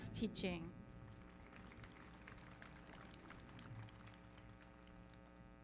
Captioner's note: everybody clapping